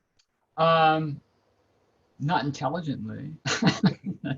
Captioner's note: laughs